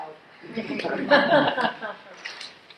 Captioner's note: laughs